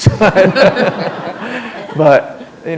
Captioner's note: laughter